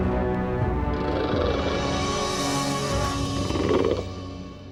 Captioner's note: chirping